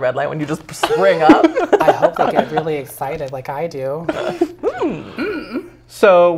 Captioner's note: laugh